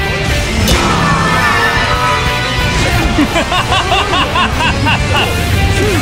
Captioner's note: KO Scream